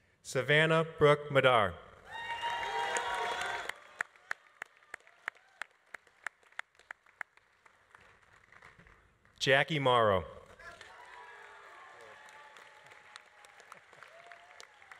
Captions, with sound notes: Savannah Brooke Madar. (audience applauding) (audience cheering) Jackie Mauro. (audience applauding) - Go Jackie.